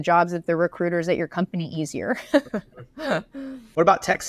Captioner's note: laughs